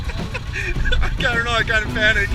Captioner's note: laughing